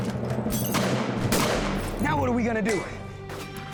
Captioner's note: gunfire